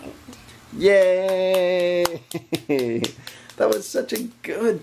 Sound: audience applauding

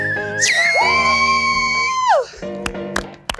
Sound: whistle blows; cheering; clapping

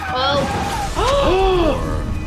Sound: sound of car crash; both gasping

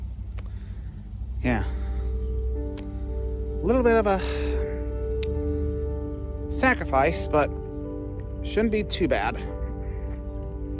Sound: normal voice

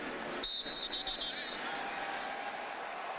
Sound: whistle

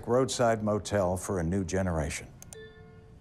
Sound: slide chimes

